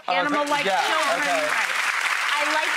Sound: audience applauding

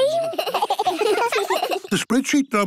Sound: giggling

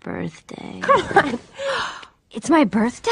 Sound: laughing

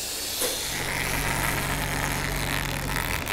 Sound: cracking noise

